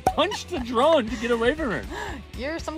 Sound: laughs

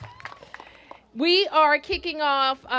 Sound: cheers and applause

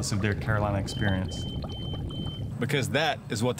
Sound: smoke alarm beeping

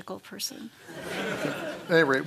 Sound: laughter

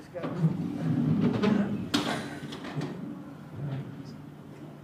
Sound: thudding

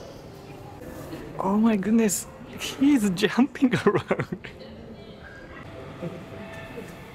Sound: chuckles

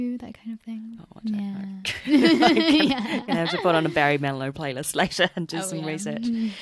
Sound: laughs

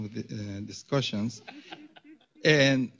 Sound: laughter

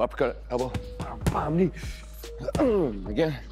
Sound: hitting the pads

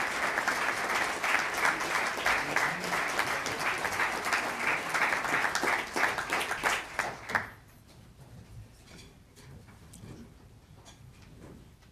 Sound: applause

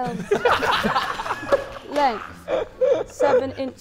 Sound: Sidemen laughing

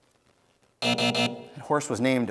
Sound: timer buzzes

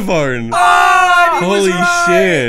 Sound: all shouts

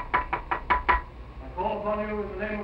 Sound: knocking

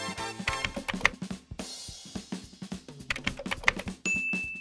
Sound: pencil scratching; text clicking; bell dinging

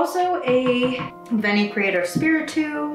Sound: dog ball bouncing

